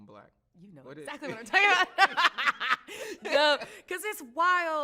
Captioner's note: laughs